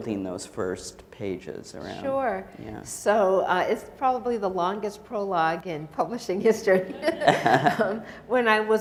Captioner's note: audience chuckles